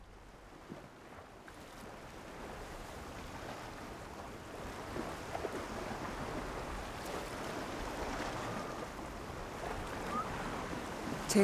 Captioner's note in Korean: 잔잔한 파도 소리